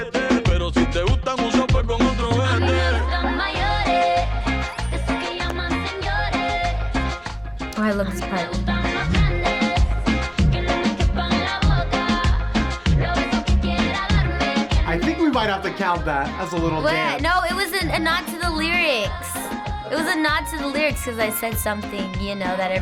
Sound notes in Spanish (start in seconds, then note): 2.2 cantando en español; 2.2 grita suavemente